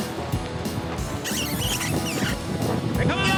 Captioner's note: booger makes squeaking sound